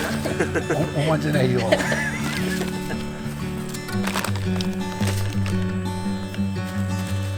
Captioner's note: laughs